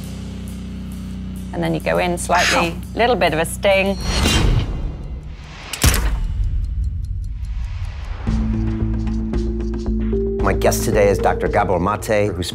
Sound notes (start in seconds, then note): 4.0 boom resounds; 4.7 clock ticking